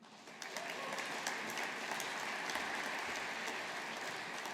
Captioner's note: audience applauding